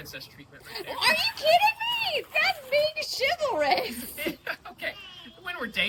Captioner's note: laughs